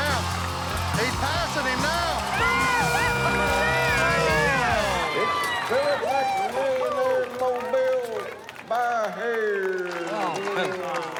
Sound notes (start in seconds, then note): 2.7 yelling; 9.8 clapping